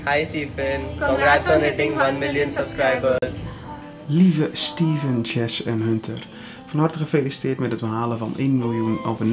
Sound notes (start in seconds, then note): 4.0 in foreign language